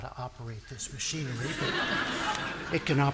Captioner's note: audience laughing